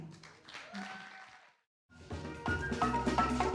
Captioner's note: audience applauding; upbeat music